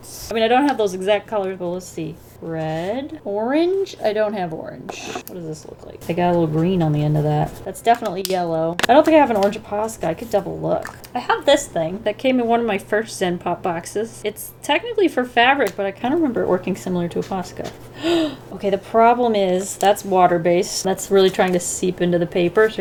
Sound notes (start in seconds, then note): 17.8 gasps